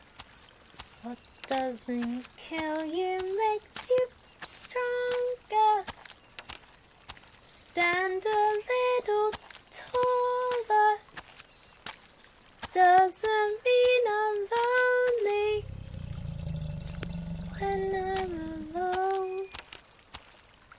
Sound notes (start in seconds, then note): 0.0 quiet footsteps; 1.5 sotto voce